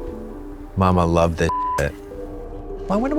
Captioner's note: beep